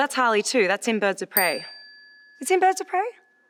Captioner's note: bell dings